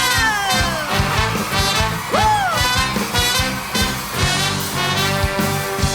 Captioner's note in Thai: ปรบมือ